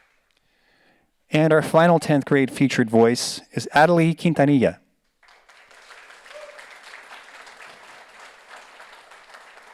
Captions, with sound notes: And our final 10th grade featured voice is Atalie Quintanilla. (audience applauds)